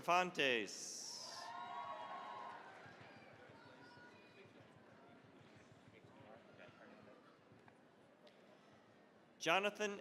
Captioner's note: cheering, applause